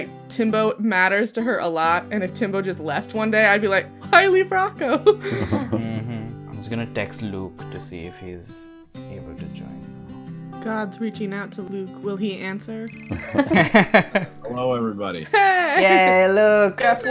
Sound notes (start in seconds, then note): 5.0 laughs; 13.1 laughter